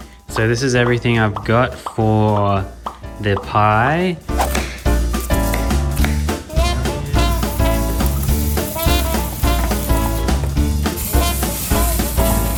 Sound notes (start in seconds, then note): 4.3 chopping sounds; 5.5 jazz music; 6.8 sizzling sound